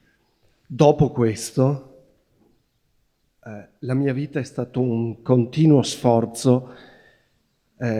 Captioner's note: questioner speaking Italian